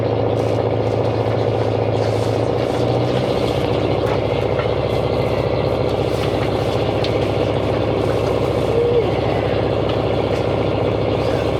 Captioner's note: engine revving